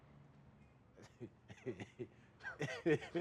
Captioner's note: laughing